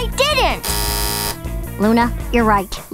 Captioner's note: buzzer